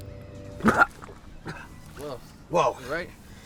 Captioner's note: coughs